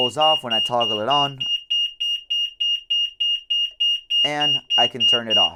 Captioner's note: beeps